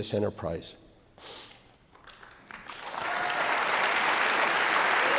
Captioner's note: audience claps